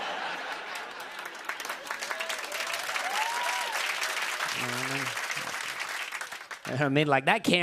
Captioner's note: laughter; applause